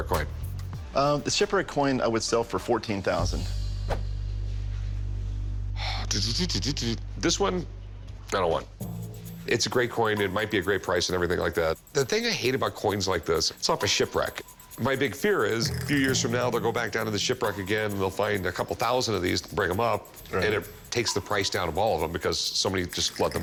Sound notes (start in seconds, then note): 5.0 sigh